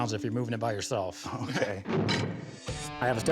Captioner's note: metal clanks